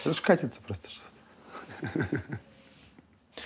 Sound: laughs

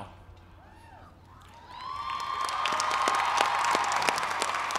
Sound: cheering

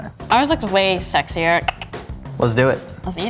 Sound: clicking

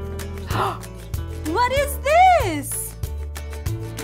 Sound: gasps

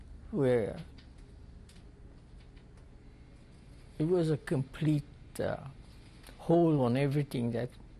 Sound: pauses for 3 seconds

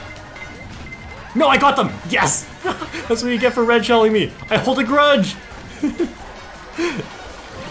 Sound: laughs

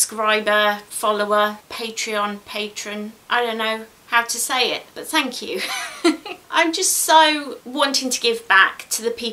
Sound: laughs

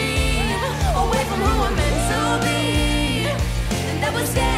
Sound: whooping

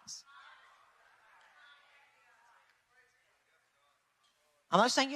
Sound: people talk distantly

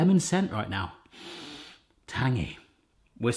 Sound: sniffing

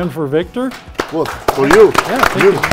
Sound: audience clapping

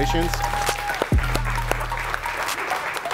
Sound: cheering

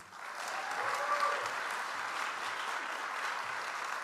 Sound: audience applauds

